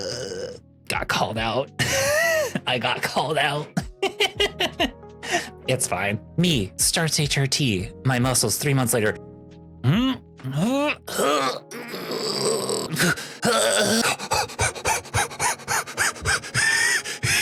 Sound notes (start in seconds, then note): 12.9 grunting; 13.9 panting; 16.5 wheezing